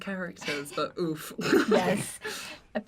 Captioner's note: the cast laughs